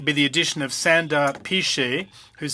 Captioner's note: speaking French